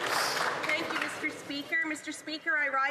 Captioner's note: some Applause